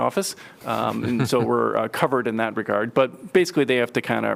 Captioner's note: laughter